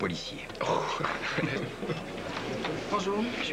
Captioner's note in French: Rires